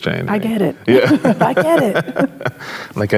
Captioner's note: chuckles